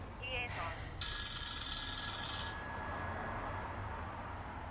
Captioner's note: phone ringing